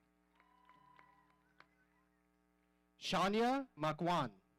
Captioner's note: audience cheering